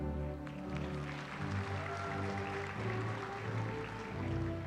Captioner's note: applause